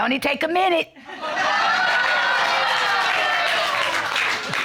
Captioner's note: audience exclaiming, applauding